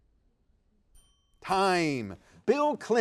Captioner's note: timer dings